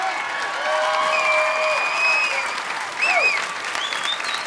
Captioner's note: audience cheering